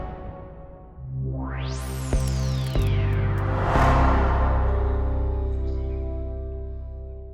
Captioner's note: air swooshes; strange music